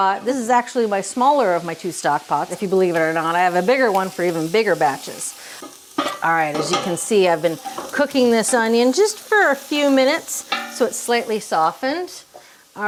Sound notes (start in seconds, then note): 5.3 onions sizzling